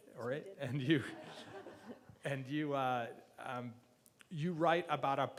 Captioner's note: laughing